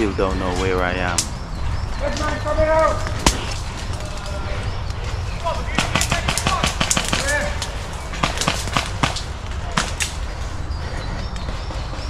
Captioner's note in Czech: střílející výstřely